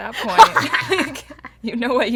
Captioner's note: laughter